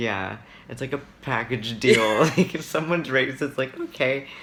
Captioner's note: laughs